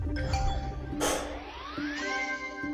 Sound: sighs

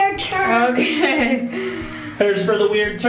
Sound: laughing

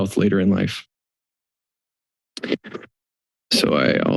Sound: silence

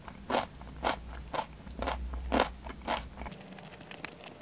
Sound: crunchy

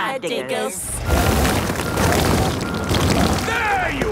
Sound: rock crumbling

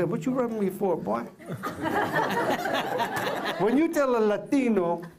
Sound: laughter

